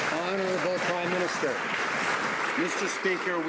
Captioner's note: some Applause